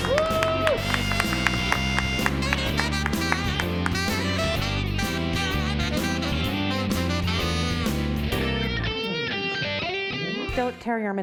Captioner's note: cheers and applause